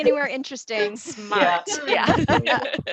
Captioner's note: laughter